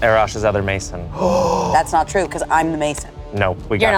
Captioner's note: gasps